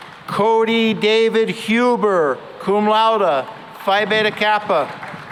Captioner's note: applause